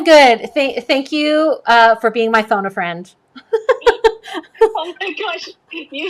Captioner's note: laughs